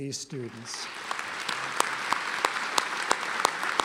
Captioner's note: applause